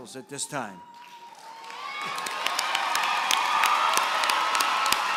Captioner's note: applause